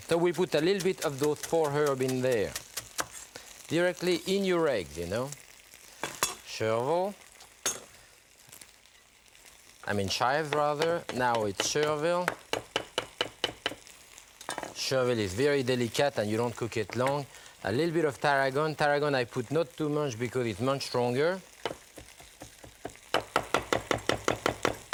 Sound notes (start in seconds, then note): 12.7 knife cuts; 22.1 knife thuds